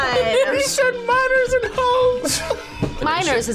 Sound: laughs

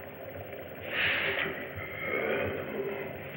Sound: sniffs

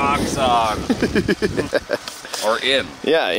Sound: laughing

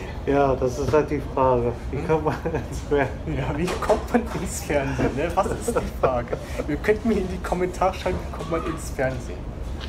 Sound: he laughs

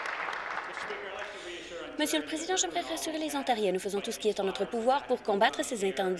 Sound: applause

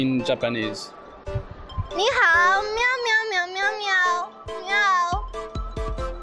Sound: in mandarin

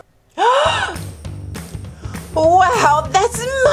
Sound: gasps

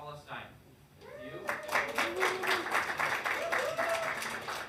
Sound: hands clapping

